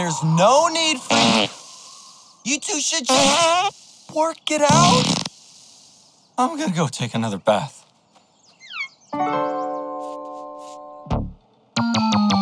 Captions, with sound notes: There's no need for-- [farts] you two should just-- [farts] work it out.. [farts] I'm going to go take another bath.